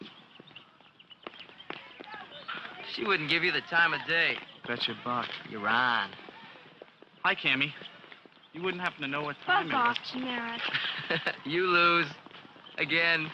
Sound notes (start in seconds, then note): 10.6 laughing